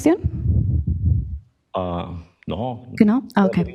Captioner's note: speaks Spanish